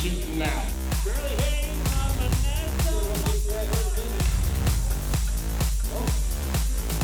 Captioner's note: upbeat music; people chattering